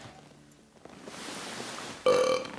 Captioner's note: burps loudly; burps, sighs